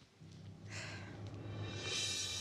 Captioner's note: sighs